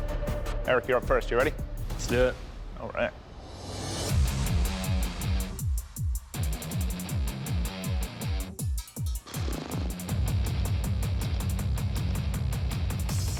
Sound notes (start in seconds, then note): 3.8 rock music; 8.8 buzzes lips